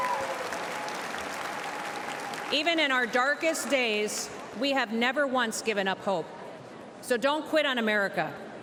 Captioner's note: cheers and applause